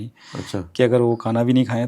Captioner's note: nasal sound